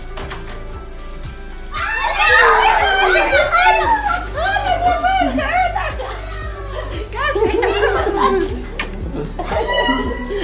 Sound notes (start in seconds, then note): 1.7 screaming